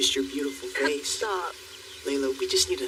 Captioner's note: Laylala chuckles